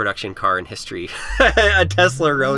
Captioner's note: laughs